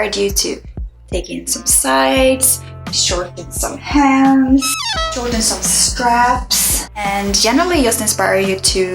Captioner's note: error sound